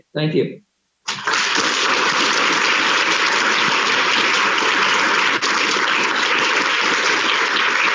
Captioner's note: applause